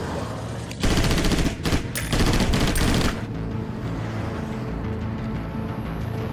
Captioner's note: shots firing; dramatic music